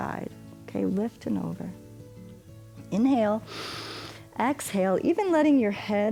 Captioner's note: inhales